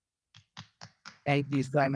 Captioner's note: applause